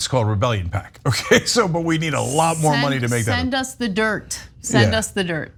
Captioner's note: laugh